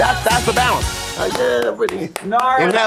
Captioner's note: clapping